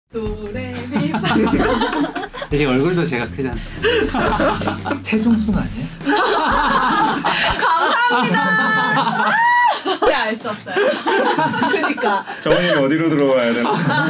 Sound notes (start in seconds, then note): 0.9 laughter; 3.8 laughter; 6.0 huge laughter; 10.5 laughter